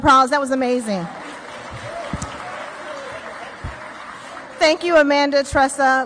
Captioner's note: audience clapping